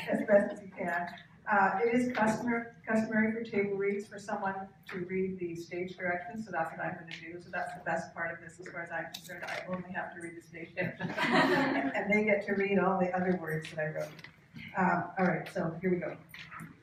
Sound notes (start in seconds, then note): 10.8 laughter